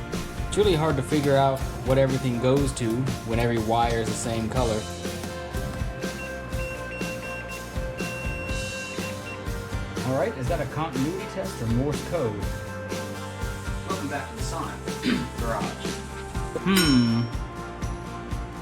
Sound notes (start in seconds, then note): 14.9 cough